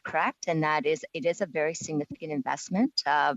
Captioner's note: speaking French